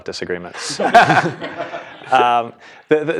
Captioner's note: laugh